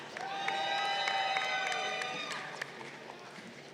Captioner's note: crowd cheering